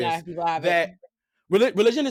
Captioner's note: group chattering